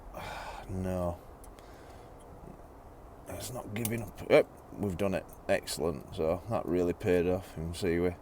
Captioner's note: cracking noise